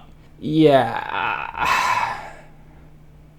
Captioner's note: sigh